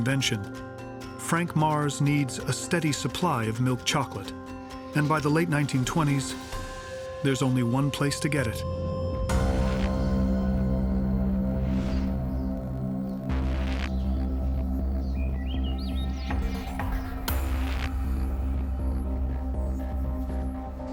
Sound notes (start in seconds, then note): 12.0 birds singing; 16.8 tense instrumental music